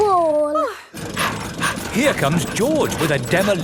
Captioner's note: daddy pig panting